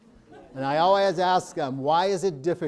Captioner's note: audience laughing